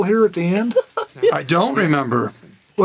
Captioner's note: Burnett laughs